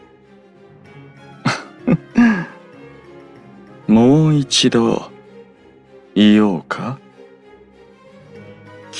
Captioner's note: laugh